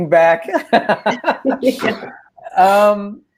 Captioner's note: laughing